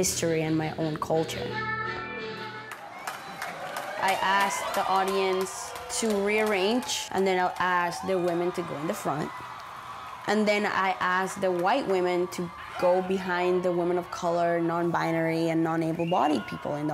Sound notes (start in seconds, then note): 2.7 applause